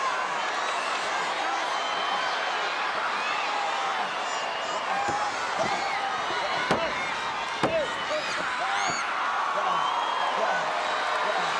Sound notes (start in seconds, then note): 3.8 wrestlers grunting